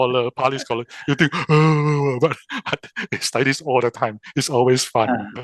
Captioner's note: yawn